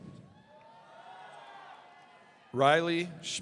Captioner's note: audience cheering